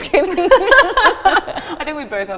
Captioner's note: both laughing